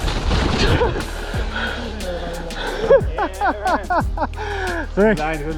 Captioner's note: laughing